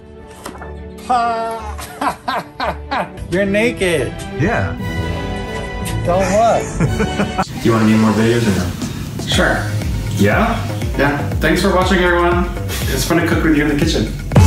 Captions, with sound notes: Hah! You’re naked! - Yeah. (laughing) - Do you wanna be in more videos or no? - Sure. - Yeah? - Yeah. Thanks for watching, everyone! It was fun to cook with you in the kitchen!